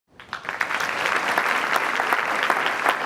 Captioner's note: applause